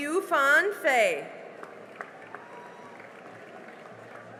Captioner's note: cheering and applause